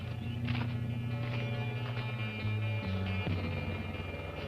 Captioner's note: footsteps thudding